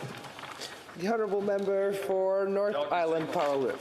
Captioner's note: some applause